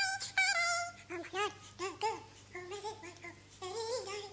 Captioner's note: humming